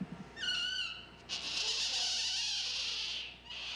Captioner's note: otter wailing